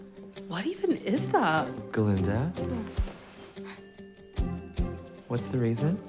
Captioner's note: none